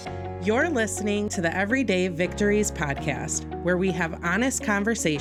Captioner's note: voiceover